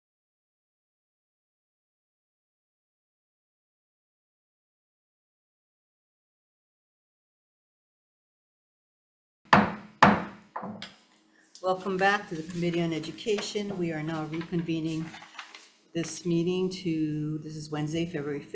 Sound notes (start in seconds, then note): 9.5 mallet thudding